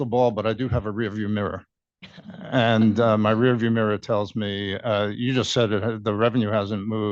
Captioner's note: laughter